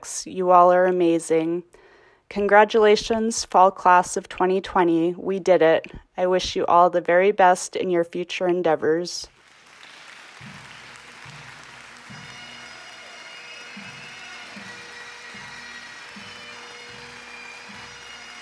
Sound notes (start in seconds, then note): 9.4 audience cheers and applauds; 12.0 jubilant bagpipe music